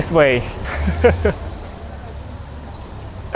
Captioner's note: chuckles